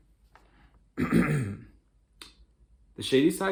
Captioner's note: clears throat